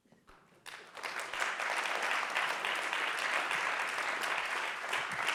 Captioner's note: audience applauding